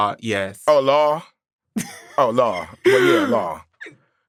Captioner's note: laughs